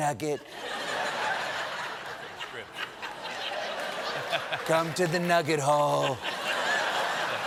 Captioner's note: laughter